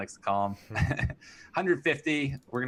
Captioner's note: laughs